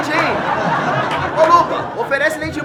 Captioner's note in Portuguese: risadas